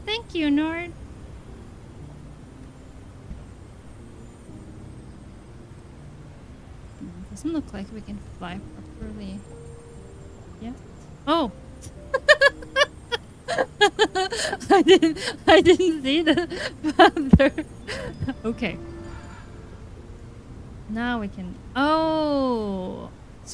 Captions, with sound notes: Thank you, Njord! It doesn't look like we can fly for me... Oh! [ laughs ] I didn't... I didn't see... that there. Okay, now we can... Oh!